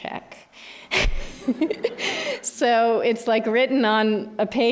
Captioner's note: laughs